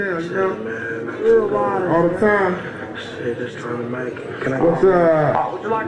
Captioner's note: crowd chattering